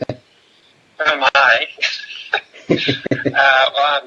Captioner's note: laughs